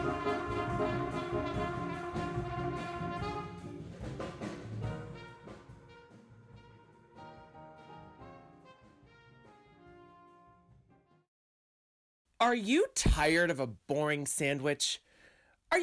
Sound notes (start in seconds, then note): none